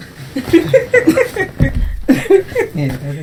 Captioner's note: laughs